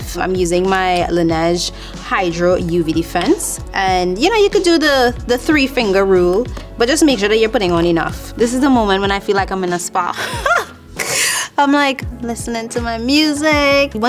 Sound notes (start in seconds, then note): 10.1 laughing